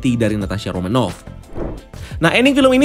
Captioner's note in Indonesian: suara transisi